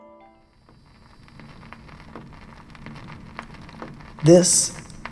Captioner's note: sound of vinyl record crackling